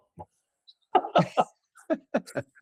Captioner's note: both Laughing